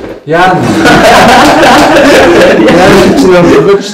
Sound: laughter

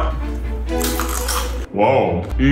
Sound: crunch

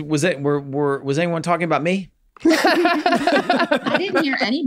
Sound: group laughs

